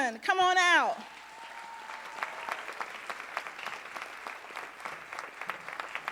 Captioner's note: audience cheering and applauding